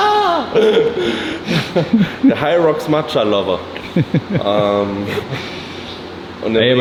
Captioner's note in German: gelächter